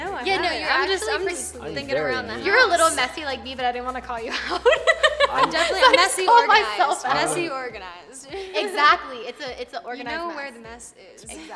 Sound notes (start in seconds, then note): 4.4 chuckles; 4.4 laughs; 11.0 chuckles